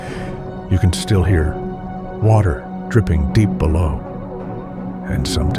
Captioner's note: water dripping deep below